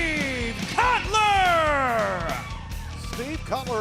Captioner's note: crowd cheering